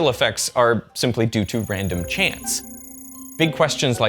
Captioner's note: screen chirping